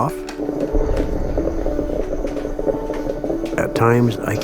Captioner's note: water burbling